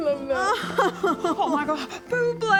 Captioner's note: sobs